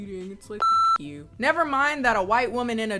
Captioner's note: beeps